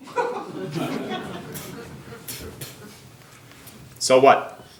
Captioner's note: audience laughing